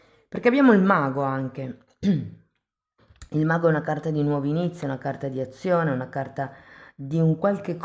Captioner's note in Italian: schiarire la voce